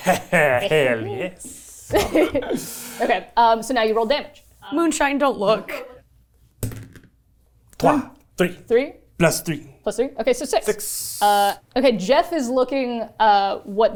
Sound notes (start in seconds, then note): 7.7 speaks French